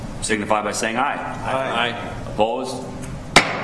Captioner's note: multiple Voices